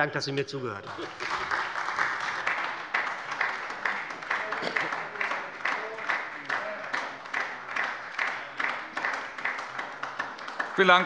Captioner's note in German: Beifall bei der SPD